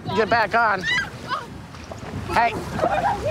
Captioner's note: screaming